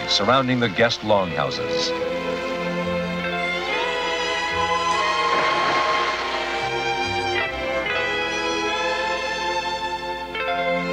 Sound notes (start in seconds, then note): 5.1 water splashing